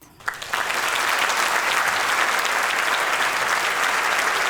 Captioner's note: applause